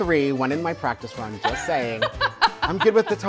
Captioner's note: laughs